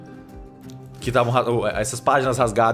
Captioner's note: stutters